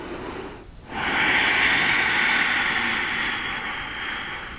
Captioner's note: exhaling